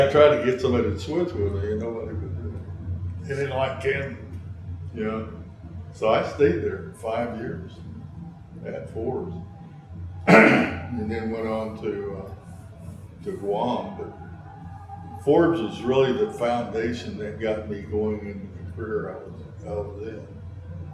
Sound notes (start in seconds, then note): 5.2 laughs